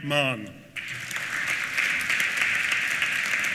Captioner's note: applause